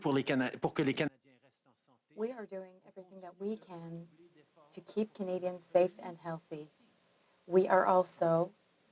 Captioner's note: speaking French